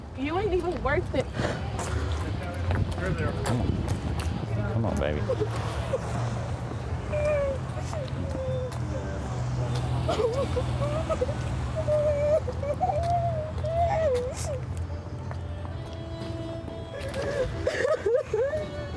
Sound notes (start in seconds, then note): 7.0 sobs